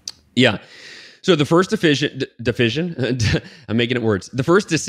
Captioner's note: chuckles